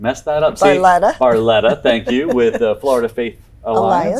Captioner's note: laughs